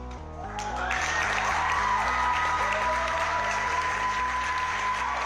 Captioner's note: suspenseful music; participants cheering